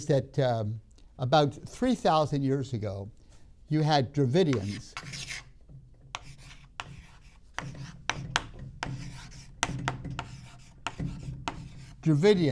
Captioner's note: chalk sounds